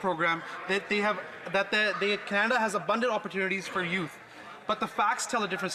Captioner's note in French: voix de l'interprète